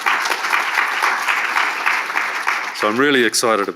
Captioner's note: audience applauding